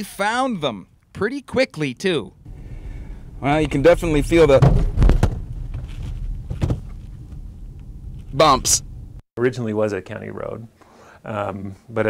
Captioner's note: bump